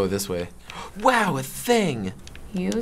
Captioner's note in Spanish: sorprendido